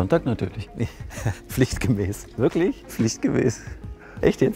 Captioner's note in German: lacht